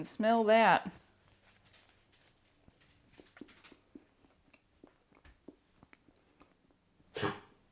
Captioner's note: approaching trotty paws and chewing; big puppy huff